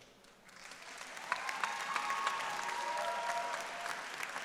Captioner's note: audience cheering